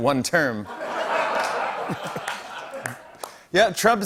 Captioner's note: laughter and applause